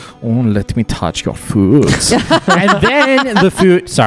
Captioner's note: laughter